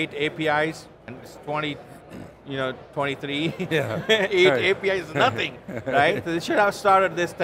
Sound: laughs

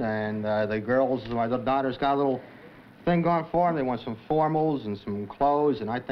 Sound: none

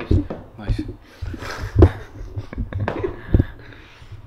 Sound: laughing

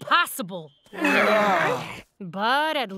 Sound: groaning

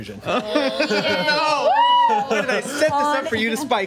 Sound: overlapping chatter

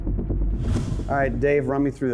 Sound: whooshing

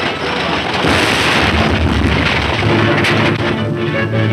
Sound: loud explosion; tense music

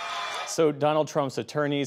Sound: cheering and applause

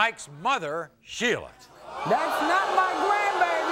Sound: audience gasps

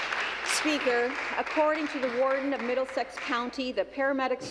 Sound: applause

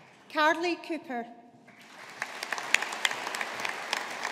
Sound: audience applauding

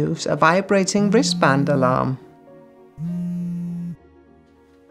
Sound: wristband alarm vibrating

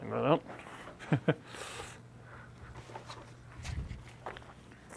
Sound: laughs

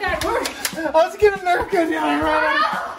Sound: gun clicks

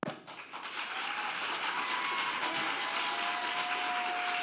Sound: audience applauding

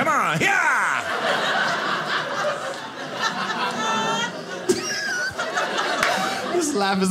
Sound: audience laughing

